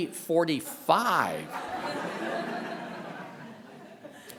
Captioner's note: laughter continues